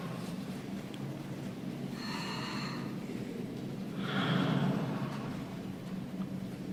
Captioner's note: slow breathing